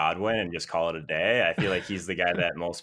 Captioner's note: laughs